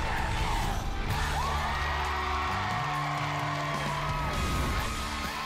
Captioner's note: crowd chanting "dr. phil!"; cheering and applause